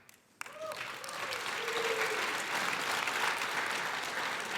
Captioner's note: crowd applauding